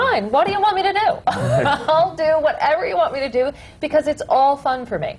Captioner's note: laughs